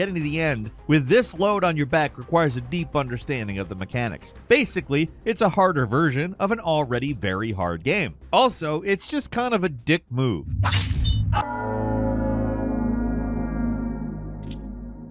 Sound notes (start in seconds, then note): 10.4 blade whooshes; 11.2 eerie music